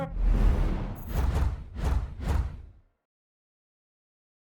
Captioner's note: whoosh